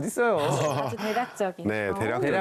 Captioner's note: ㅎㅎㅎㅎㅎㅎㅎ